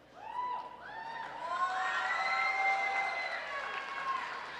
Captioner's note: crowd cheering